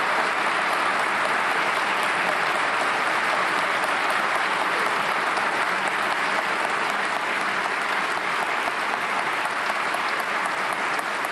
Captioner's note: applause